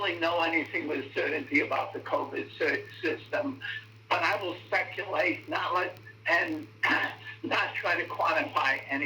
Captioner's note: coughs